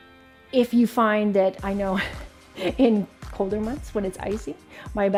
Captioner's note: chuckling